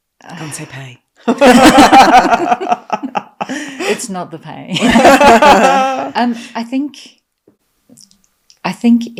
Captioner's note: laughing